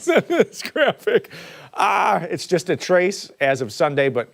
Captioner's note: laughter